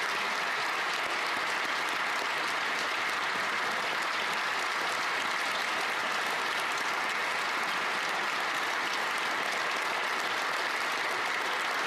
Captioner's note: applause